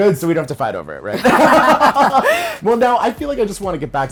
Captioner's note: both laugh